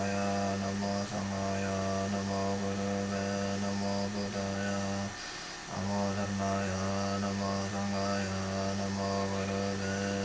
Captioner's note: recitation in Tibetan